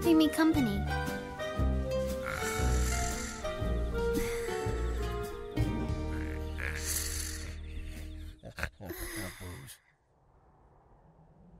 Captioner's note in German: Schnarchen